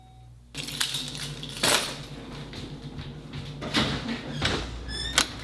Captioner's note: objects clattering; door clicking